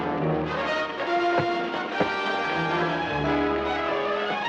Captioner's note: hits thudding